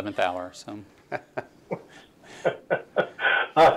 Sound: laughs

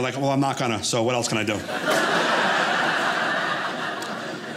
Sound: audience laughing

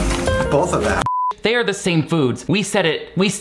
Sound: beep

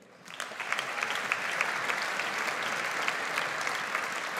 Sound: audience applauds

